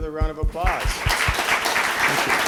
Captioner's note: applause